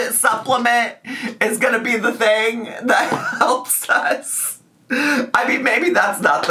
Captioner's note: laughs